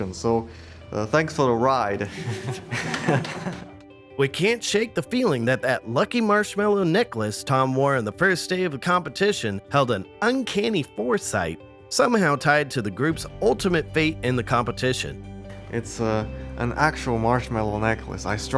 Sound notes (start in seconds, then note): 2.0 laughter